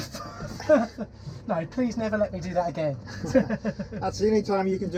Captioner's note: laughs